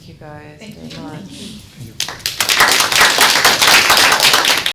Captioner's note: audience applauds